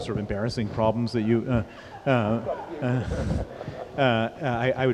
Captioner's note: laughter